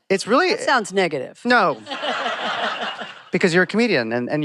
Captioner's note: laughter